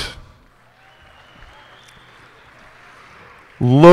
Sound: cheers and applause

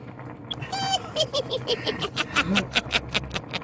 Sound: cackles

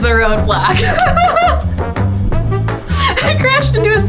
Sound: laughs

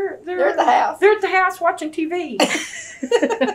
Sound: laughter

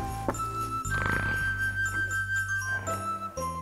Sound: snoring

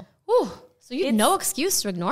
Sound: gasping

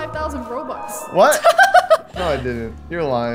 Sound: laughs

